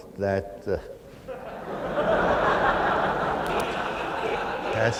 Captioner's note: laughter